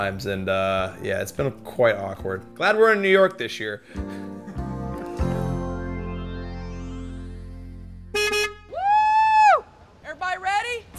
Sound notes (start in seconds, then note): 3.9 relaxed music; 8.1 car honking